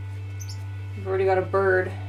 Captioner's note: chirp